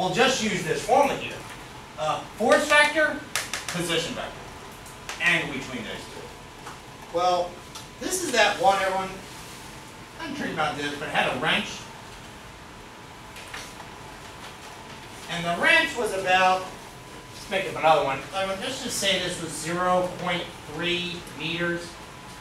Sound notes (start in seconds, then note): 6.0 speaks softly; 10.8 speaks softly